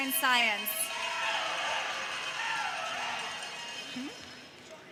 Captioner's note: cowbell jingles